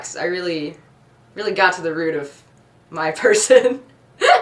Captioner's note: laughs